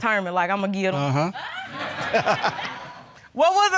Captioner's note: laughter